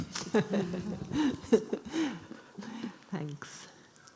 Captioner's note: laughing